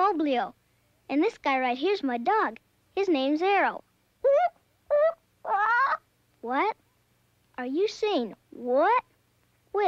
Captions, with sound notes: And this guy right here's my dog. His name's Arrow. (hoots and squawks) What? Are you saying what? Well, what happened is, you just got hatched.